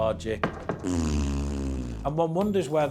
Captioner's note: farting FX